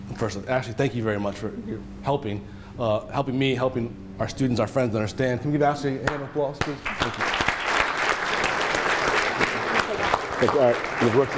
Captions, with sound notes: First of all, Ashley, thank you very much for helping. Helping me, helping our students, our friends, understand. Can we give Ashley a hand of applause, please? (audience applauding)